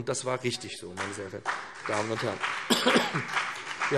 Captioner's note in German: Beifall BÜNDNIS 90/DIE GRÜNEN - Zuruf DIE LINKE